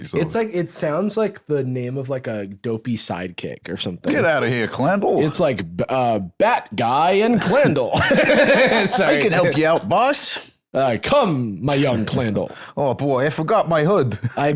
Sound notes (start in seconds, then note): 7.7 laughs